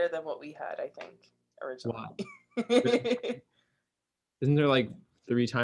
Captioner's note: laughs